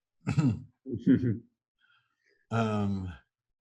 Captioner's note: chortle